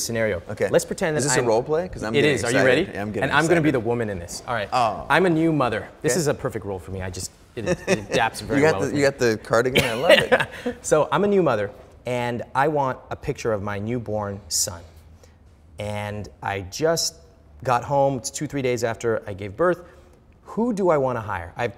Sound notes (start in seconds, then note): 7.6 chuckling; 9.7 Ramit laughing